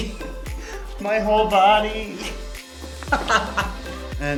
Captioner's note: laughs